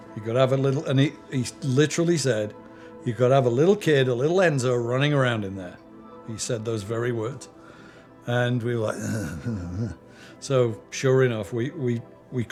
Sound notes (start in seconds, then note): 8.9 grunting